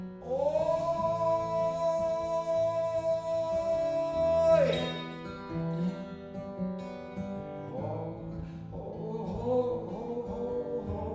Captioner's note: humming